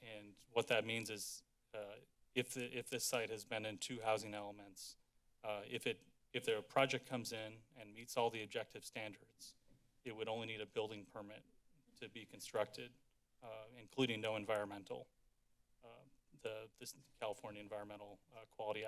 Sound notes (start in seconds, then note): none